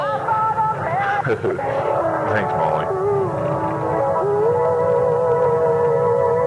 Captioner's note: chuckles